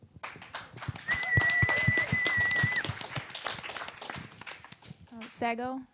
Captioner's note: audience applause